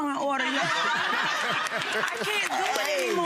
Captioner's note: audience laughing